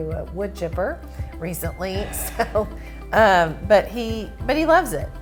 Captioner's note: chuckles